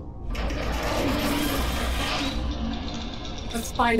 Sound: faint clanging

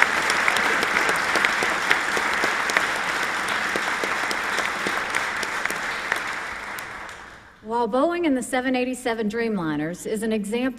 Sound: applause

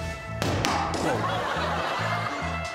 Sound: loud thud

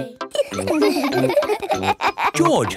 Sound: all laughing

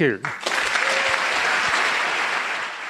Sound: applause

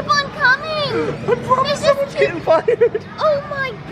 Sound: laughs

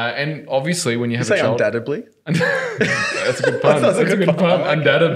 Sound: laughing

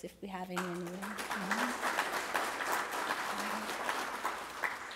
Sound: applause

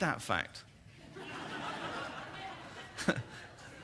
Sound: laughter

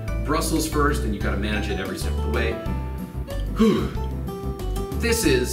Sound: acting noise

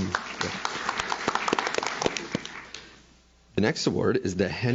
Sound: audience claps

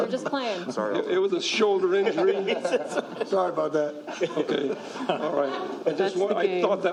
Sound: laughter

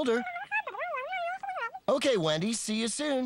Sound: garbled Phone Voice

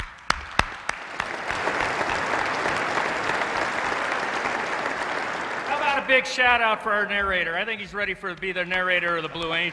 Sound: applause

